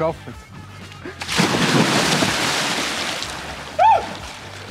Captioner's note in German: Wasser platscht, Freudenschrei